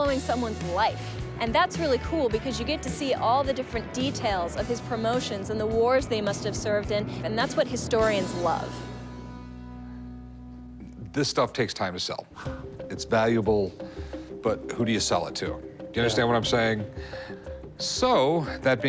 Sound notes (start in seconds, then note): none